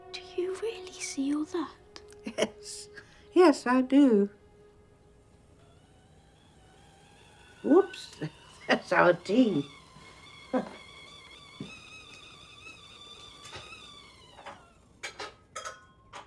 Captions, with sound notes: DO YOU REALLY SEE ALL THAT? YES. YES, I DO. [KETTLE WHISTLING] OOPS, THERE'S OUR TEA.